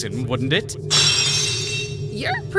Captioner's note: lock shatters!